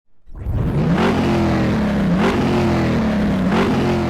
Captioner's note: engine roaring